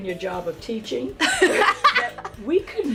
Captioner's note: laughing